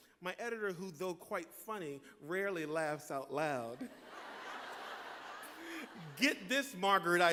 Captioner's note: laughter